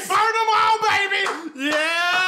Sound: clapping

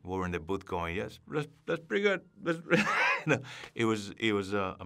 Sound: laughs

